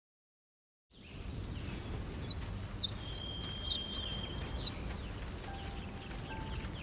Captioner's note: birds chirping